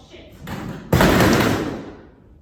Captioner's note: chairs fall